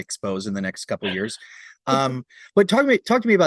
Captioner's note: laughs